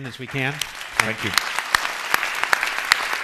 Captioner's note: clapping